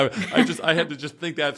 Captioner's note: laugh